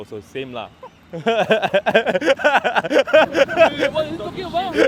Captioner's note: laughs sarcastically